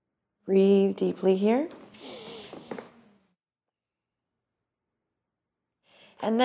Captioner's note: deep breath